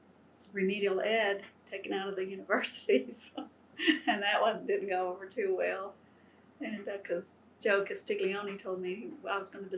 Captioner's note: laughs